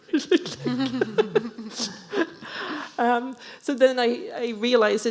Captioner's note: laughing